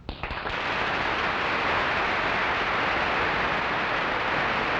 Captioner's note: audience applauding